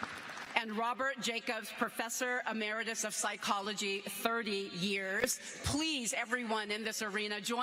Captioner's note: cheers and applause